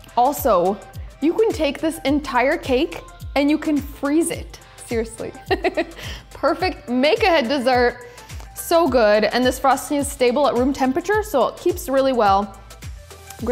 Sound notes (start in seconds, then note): 5.4 laughs